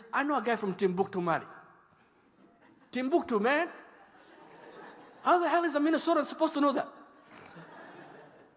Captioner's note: laughter